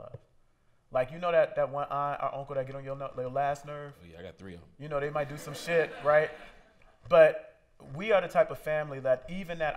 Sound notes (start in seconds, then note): 5.2 laughter